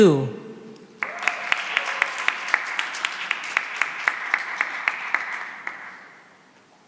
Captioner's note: cheering and applause